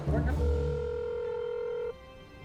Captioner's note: phone rings